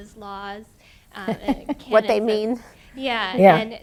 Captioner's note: laughs